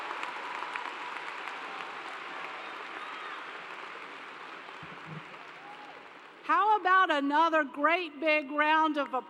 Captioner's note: cheers and Applause